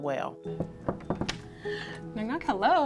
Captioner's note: fist knocking